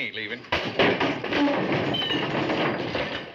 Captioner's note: thudding